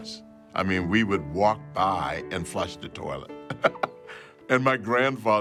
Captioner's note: chuckles